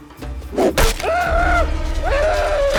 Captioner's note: shrieking